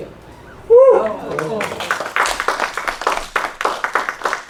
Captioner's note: applause